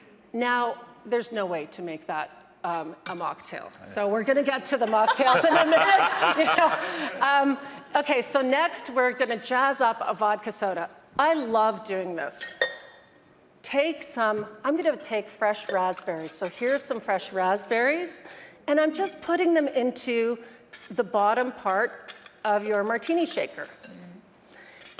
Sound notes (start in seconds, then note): 4.8 hosts laughing; 12.2 metal clanging